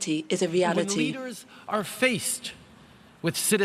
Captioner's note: speaking English